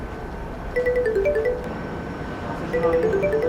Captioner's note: telephone rings